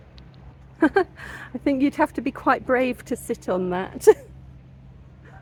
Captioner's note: laughing